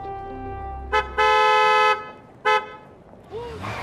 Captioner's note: car honking